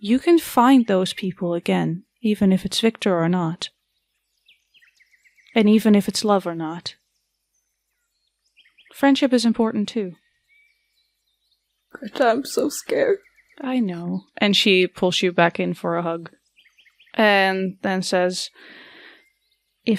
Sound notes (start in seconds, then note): 12.3 crying